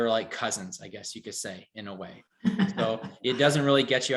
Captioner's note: giggles